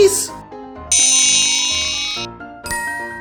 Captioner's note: futuristic zapping; magical ting